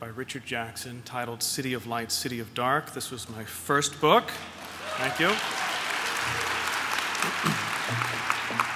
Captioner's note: applause